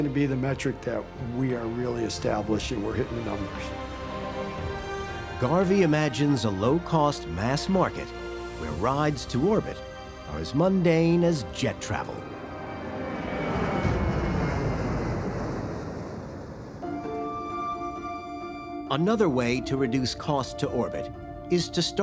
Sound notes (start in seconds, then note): 12.2 engine roaring